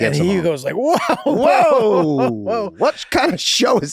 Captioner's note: Charlie laughing amusingly